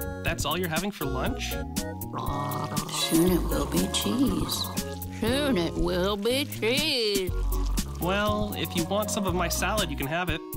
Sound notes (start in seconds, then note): 2.2 gurgles